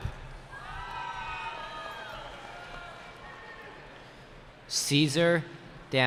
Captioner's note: cheering